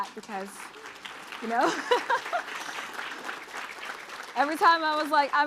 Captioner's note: applause